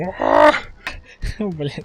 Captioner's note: breathing